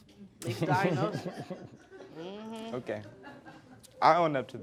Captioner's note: laughs